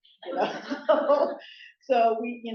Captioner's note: laughter